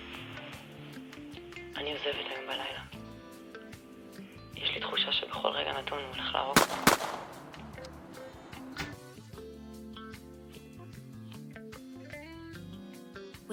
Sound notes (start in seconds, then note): 1.7 speaking in Hebrew; 6.5 gunshots